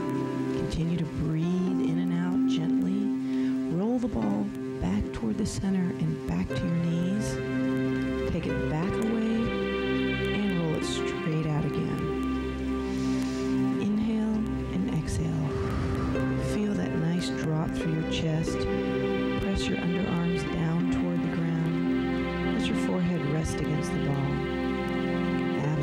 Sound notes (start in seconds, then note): 15.3 breath hisses